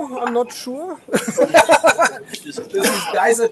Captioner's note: audience laughs